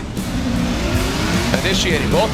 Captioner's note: engines revving